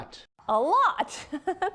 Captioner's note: laughter